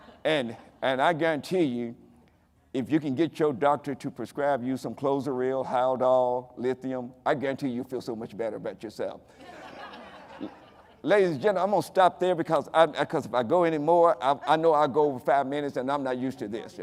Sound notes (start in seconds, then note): 9.4 audience laughing